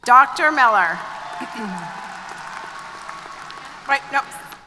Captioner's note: applause & Cheers